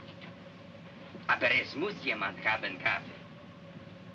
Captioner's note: speaking in Russian